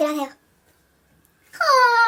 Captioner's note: silence